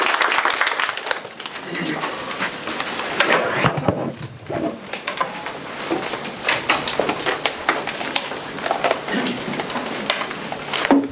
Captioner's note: applause; audience murmurs